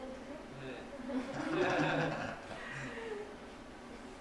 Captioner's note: laughs